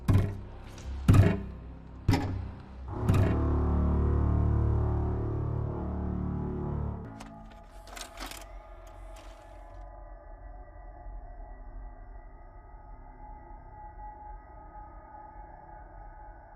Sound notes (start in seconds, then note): 3.5 soft tense music; 7.1 video cassette clattering; 8.8 VCR whirring; 10.9 soft tense music